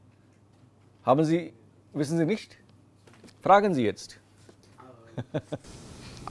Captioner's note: laughs